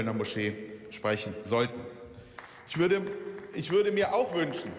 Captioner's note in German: Beifall